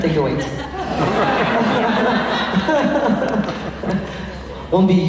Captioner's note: laughs